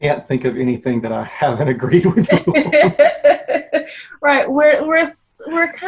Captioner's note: laughs